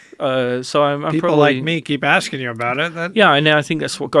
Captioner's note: laughs